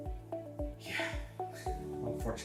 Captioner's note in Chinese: 叹气